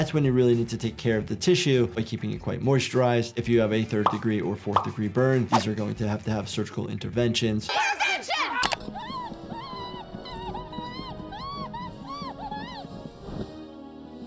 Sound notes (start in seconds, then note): 7.7 Petunia screams